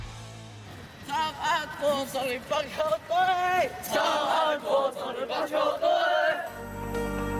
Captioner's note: motivational chant